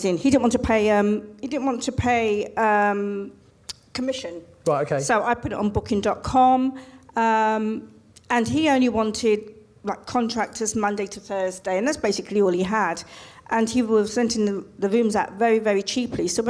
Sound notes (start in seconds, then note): none